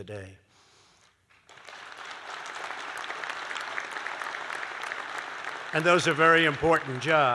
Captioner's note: applause